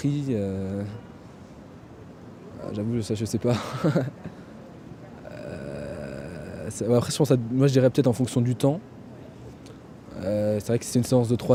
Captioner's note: laughs